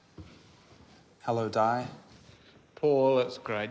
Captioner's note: none